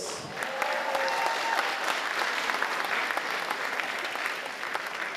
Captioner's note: audience applauding and cheering